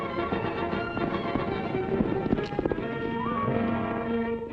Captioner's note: horse galloping